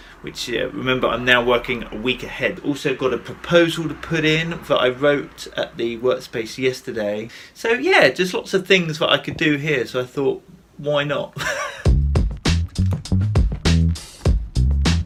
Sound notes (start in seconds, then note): 11.4 laughs; 11.9 electronic music